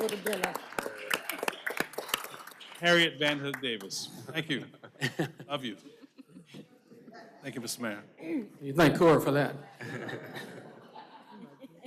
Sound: applause; laughter

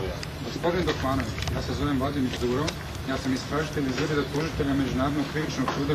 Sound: man speaking foreign language

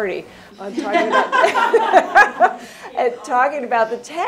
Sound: chuckles

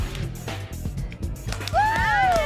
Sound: cheers

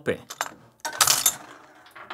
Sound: mechanism clicking

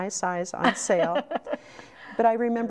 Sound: laughing

